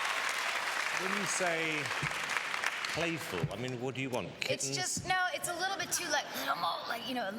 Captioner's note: cheers and applause